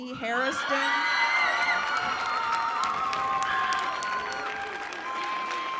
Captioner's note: cheering